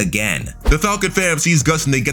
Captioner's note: air whooshing